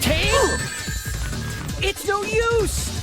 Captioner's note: uptempo electronic music; coins dinging